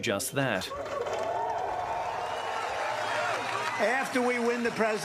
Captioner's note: cheering, applause